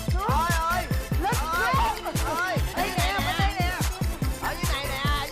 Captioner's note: crowd